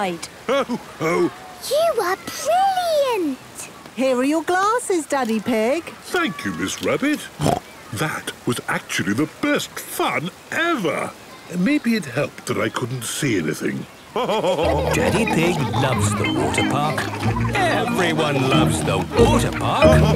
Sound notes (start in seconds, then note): 7.4 snorts; 14.1 laughing